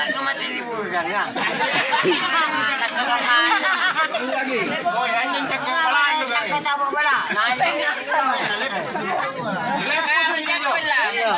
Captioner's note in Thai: เสียงหัวเราะ